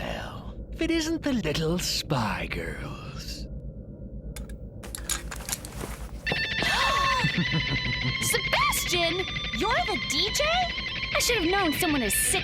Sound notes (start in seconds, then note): 6.6 gasps